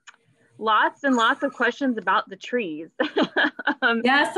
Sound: laughs

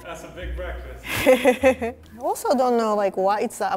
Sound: laughs

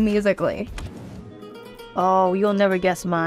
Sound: screen whooshing

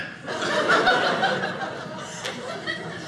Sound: audience laughing

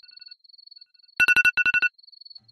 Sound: alarm ringing

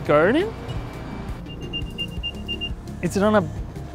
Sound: ringing

